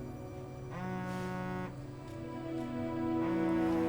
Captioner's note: phone vibrating